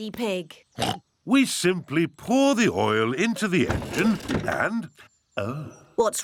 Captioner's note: oinks